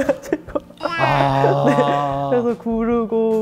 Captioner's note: deep sighing